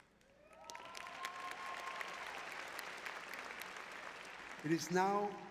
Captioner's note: applause